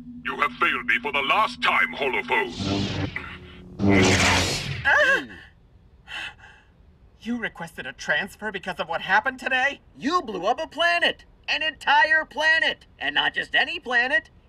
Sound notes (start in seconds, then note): 1.9 buzz; 3.8 zap